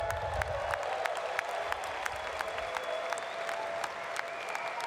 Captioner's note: applause